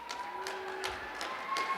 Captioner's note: cheers and applause